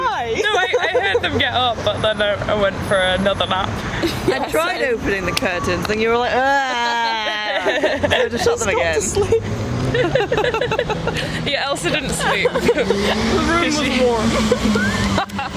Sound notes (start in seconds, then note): 7.1 all laugh; 10.6 all laugh